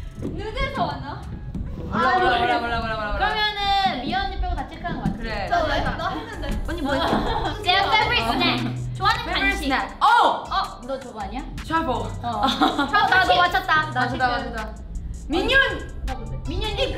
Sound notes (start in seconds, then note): 0.1 speaks in Korean; 8.9 speaks in Korean; 12.6 speaks in Korean